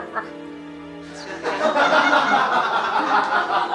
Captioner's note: all laughing; gentle music